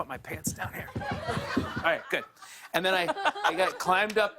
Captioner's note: laughter